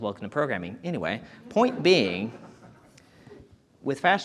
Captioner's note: audience chuckling